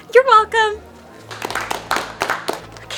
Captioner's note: applause